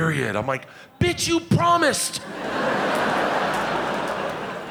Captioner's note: audience laughing